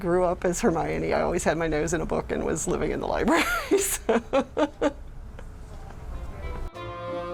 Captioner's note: laughs